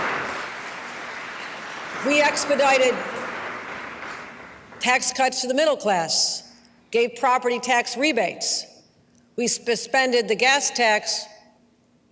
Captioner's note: applause